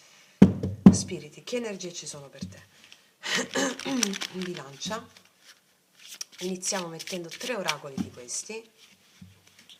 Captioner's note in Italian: schiarire la voce